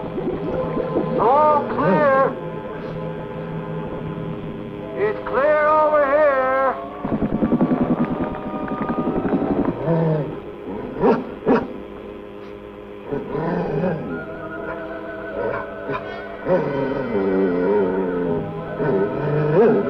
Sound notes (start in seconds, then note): 0.0 water bubbling; 9.9 dog growling; 16.5 tense music continues